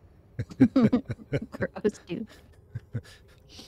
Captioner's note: laughing